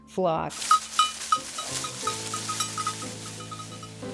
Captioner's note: bell clanging